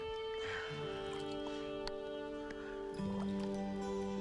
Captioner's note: water dripping; Eli sighs; low gentle music